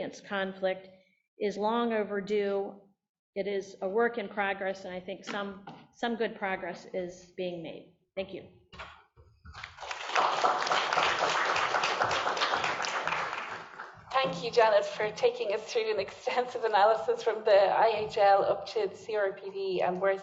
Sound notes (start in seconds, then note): 9.6 applause